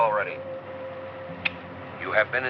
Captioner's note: switch clicks